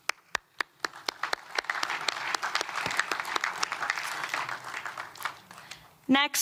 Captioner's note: applause